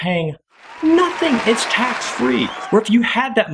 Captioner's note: cheering